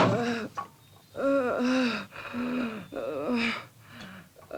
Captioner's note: Cleo groaning